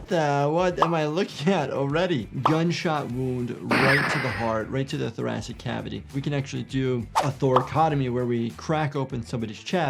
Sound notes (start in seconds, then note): 3.7 shot fires